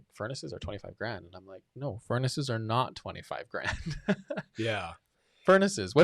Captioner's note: laughs